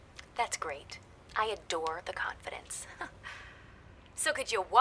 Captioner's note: chuckles